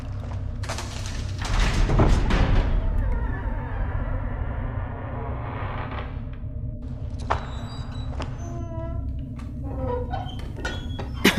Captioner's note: dungeon sounds, footsteps; dungeon door opening and closing